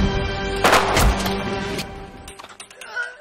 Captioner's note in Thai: เสียงปืน